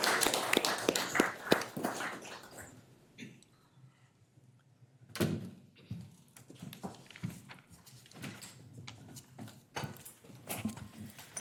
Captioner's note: applause